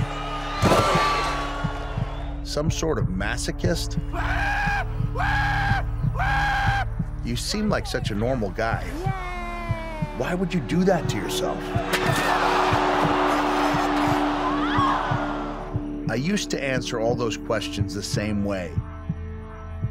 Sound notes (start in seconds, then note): 3.9 howling; 11.2 crowd ohh-ing; 14.0 woman shrieks